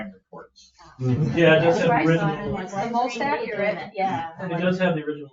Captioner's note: people chattering